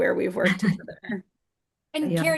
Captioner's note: chuckles